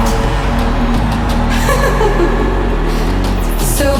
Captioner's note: dramatic music; Pixel laughs